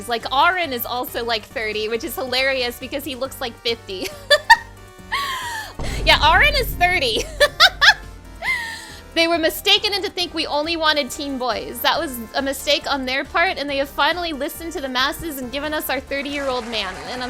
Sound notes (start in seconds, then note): 5.3 laughing; 8.0 laughing